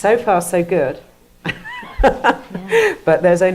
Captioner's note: laughs